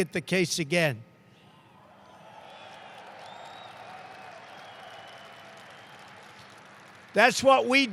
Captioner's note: applause